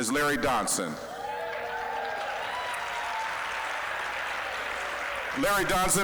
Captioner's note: applause, cheering